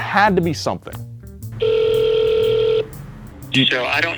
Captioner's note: phone ringing